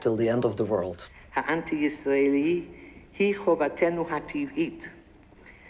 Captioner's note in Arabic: الصوت المنطوق باللغة العبرية